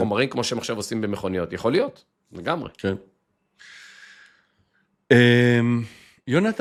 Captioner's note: sighs